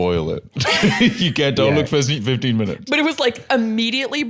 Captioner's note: laughs